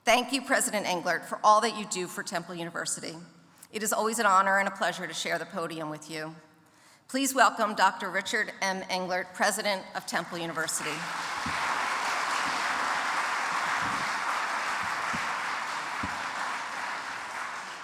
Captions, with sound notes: Thank you, President Englert, for all that you do for Temple University. It is always an honor and a pleasure to share the podium with you. Please welcome Dr. Richard M. Englert, president of Temple University. (audience applauds)